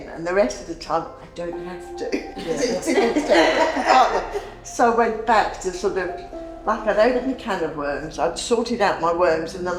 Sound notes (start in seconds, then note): 2.4 laughing